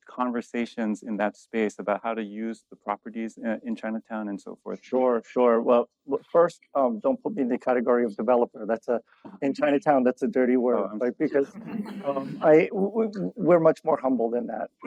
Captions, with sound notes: conversations in that space about how to use the properties, eh, in Chinatown and so forth. Sure, sure. Well, fa- first, um, don't put me in the category of developer. That's a ... (laughs) In Chinatown, that's a dirty word, like, because- Oh. (laughs) (laughs) ... um, I ... We- we're much more humble than that.